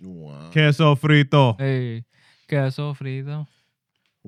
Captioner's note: non-english Speech